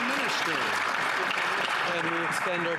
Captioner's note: some Applause